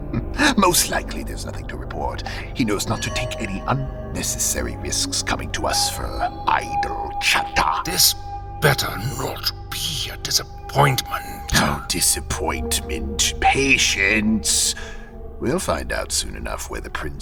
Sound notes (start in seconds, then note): 11.4 mocking